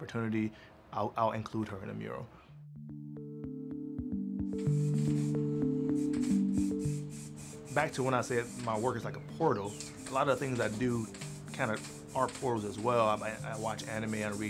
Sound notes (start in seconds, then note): 6.7 gentle upbeat music; 6.7 paint hissing